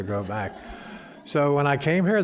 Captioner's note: laughter